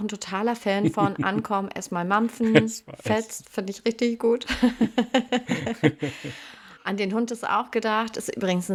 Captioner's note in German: räuspern; gelächter